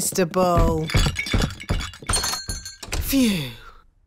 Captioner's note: thumping